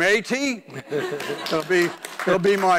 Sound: laughing

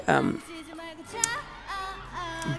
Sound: giggles

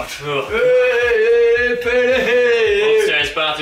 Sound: drunk noises etc

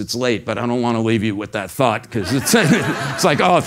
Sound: laugh

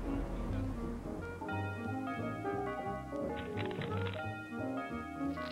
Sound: doorbell dinging

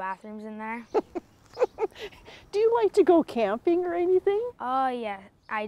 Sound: laughs

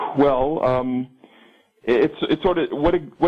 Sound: caller takes deep breath

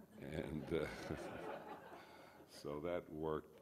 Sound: audience laughs

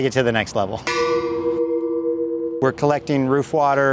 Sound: tanks clanging

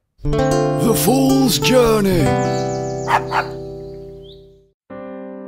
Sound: dog barks

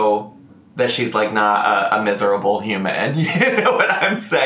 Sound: giggles

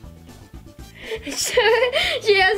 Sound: laughs

